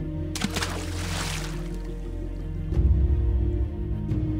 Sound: splashing

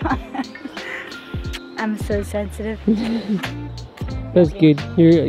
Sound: laughs

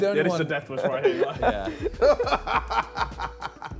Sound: laughing

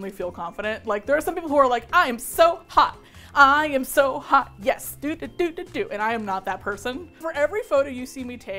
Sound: singsong

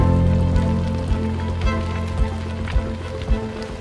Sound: fire crackling

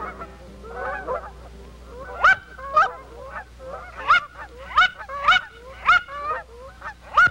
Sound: geese calls

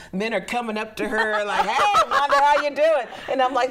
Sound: group laughing

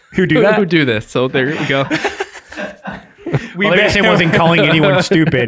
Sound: all laughing

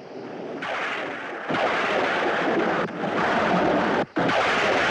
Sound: thunder Rumbling

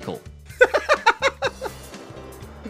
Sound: laughs

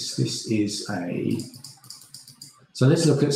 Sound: mouse clicking

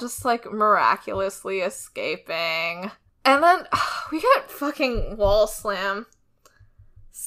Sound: sighs

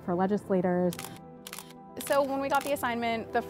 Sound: camera clicking

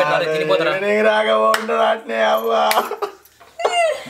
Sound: crying

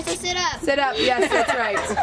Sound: laughs

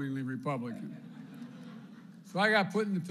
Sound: laughter

